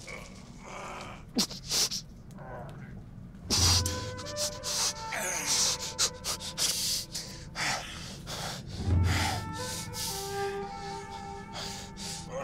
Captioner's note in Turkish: İnleme sesi